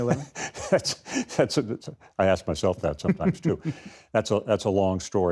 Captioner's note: laughs